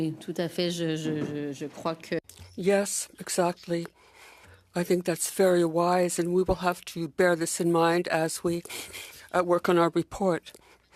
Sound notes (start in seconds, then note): 5.0 speaking French